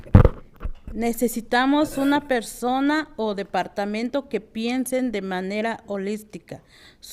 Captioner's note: speaking in foreign language